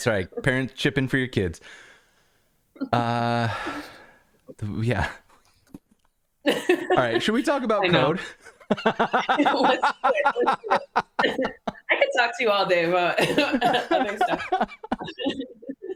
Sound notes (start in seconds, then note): 8.0 laughter